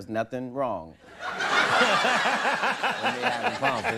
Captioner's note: all laughing